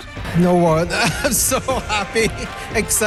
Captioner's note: laughs